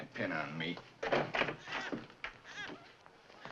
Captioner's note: door opens